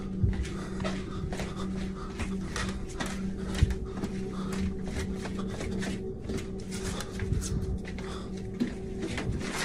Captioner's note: drastically breathing